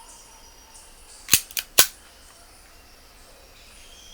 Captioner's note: gun clicks